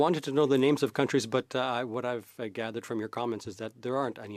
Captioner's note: speaking French